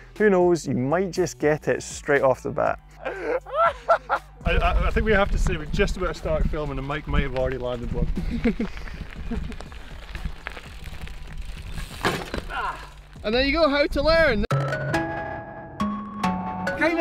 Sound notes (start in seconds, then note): 2.9 group laughing; 8.2 group laughing; 12.5 groans; 15.7 electronic beat music